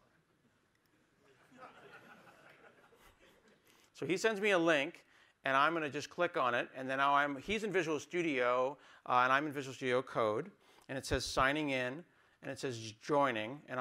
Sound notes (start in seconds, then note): 3.2 laughter